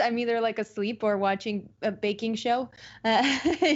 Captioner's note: laughs